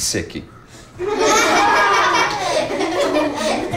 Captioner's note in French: rires